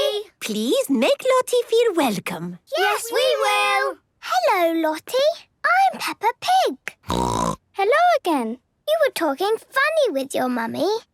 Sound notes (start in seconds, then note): 7.0 snorting